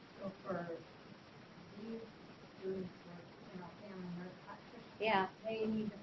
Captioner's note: woman speaking softly in background